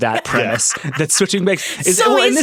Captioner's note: laughing